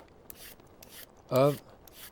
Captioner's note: vegetable peeler slicing